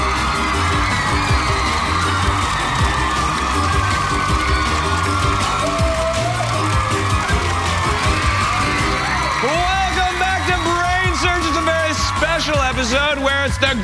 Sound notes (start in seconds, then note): 0.0 upbeat music; 0.0 cheers and applause